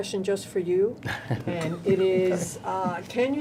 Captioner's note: men laughing